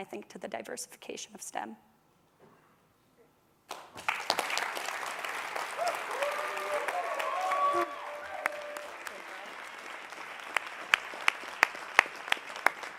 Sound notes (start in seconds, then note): 3.6 applause; 4.0 cheers and applause